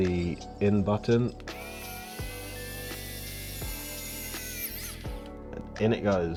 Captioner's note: screwdriver whirring